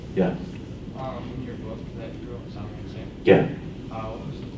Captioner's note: voiceover